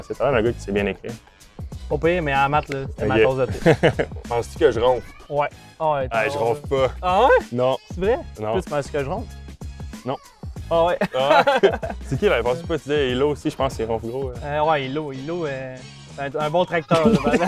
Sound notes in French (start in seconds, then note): 3.4 rires; 11.0 rires